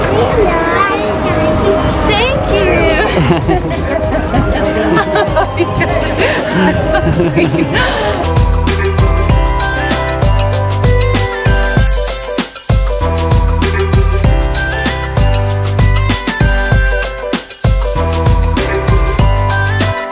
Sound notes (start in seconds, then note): 2.8 laughing; 8.2 hip-hop beats